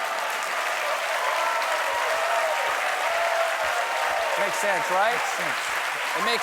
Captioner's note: cheers and applause